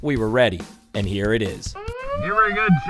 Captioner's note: siren wailing